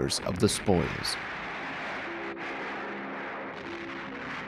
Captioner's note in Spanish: explosión de bomba